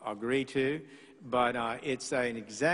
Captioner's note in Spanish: hablan inglés